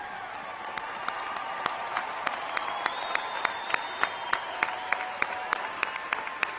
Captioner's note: cheers and applause